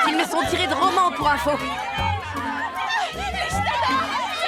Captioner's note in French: les cris continuent